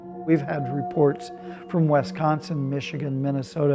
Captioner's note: none